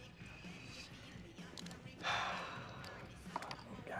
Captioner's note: sighs